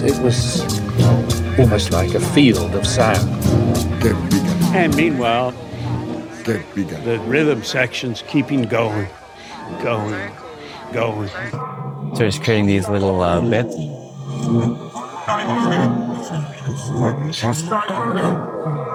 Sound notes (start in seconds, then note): 4.9 recorded Voiceover